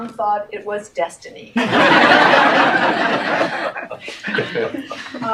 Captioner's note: audience laughs